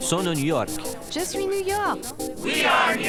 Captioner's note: French